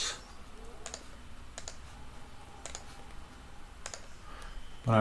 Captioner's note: clicking sounds